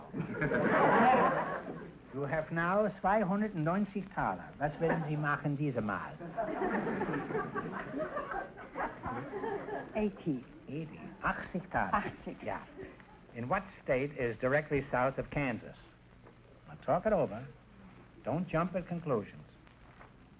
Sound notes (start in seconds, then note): 0.0 audience laughter; 4.5 speaking German; 6.2 audience laughter